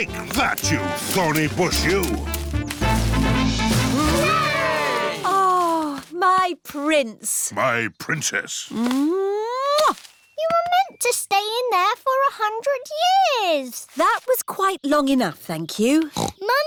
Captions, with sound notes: Take that, you thorny bush, you! -(ALL CHEERING) -Oh, my prince! -My princess! -(KISSES) You were meant to stay in there for 100 years. That was quite long enough, thank you.